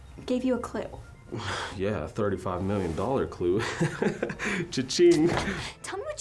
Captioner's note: scoffs; laughs